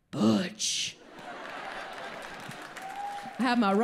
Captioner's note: audience laughs